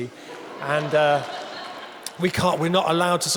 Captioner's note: audience laughing